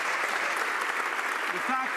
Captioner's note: some Applause